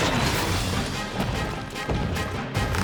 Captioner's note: footsteps pounding; creak! creak! creak!